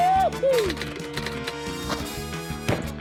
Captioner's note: keys clack